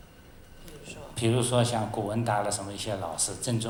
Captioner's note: Mandarin